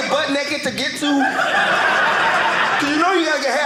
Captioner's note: audience laughing